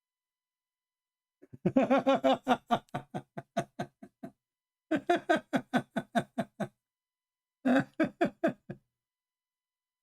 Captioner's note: Ketawa